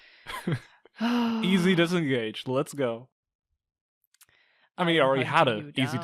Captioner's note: sighs